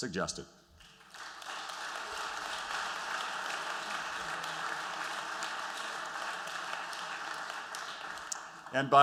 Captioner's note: applause